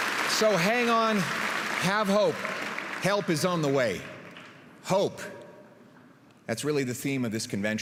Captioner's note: applause